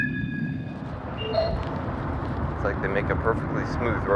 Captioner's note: bike bells; ping